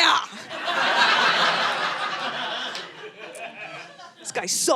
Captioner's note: audience laughing